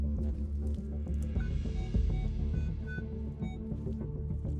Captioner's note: beeping